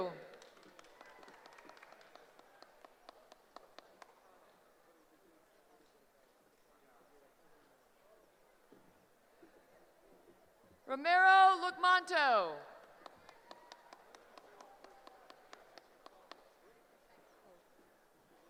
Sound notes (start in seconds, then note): 12.8 applause